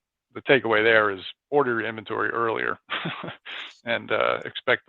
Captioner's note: laughs